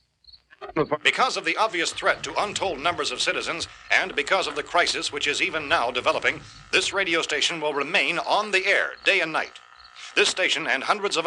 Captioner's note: radio news